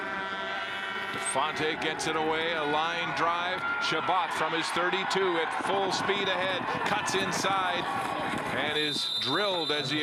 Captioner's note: crowd Noise